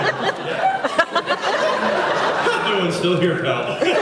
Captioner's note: laughs